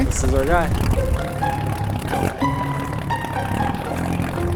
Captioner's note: whirring